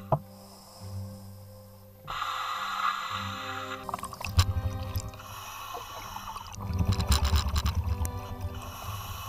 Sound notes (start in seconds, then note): 0.0 tense music; 0.2 breathing